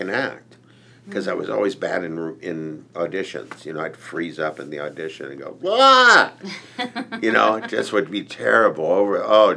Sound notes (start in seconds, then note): 6.5 laughs